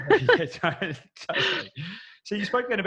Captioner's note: laughing